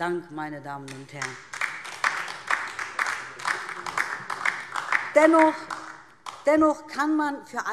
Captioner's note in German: Beifall DIE LINKE und SPD